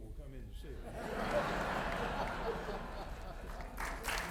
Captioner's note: audience laughing; audience applauding